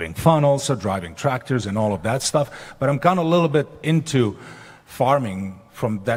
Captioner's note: none